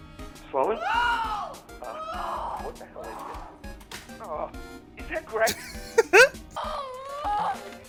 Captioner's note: giggle